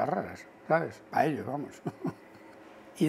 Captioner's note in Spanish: ríe